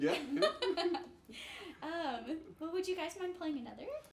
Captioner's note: laughing